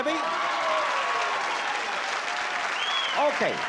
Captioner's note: applause